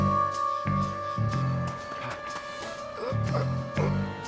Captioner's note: quirky suspense music; crickets chirrup; Homer grunts